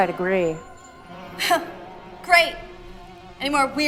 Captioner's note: scoffs